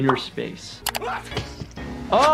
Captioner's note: Lumpy sneezing